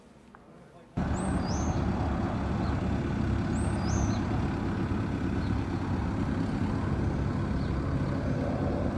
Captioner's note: birds, tractor, outdoor noises